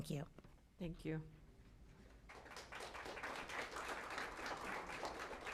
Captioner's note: applause